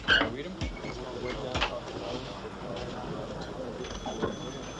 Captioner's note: door hinge squeaks